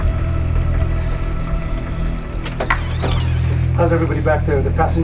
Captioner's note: keypad beeping